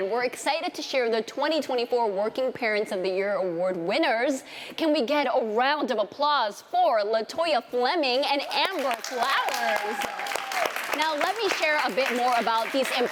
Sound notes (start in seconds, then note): 8.4 applause